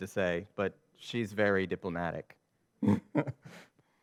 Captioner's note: chuckles